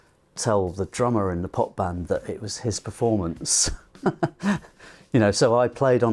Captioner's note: chuckles